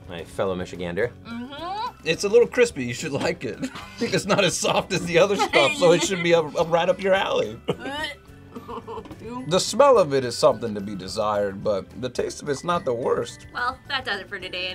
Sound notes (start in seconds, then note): 3.5 laughs; 8.5 laughs